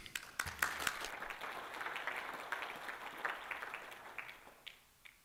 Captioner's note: applause